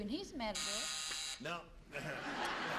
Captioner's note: buzzer sounds; laughter